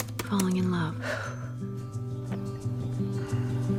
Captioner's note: exhales